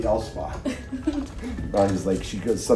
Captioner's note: laughs